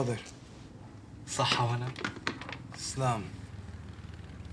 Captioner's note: speaks arabic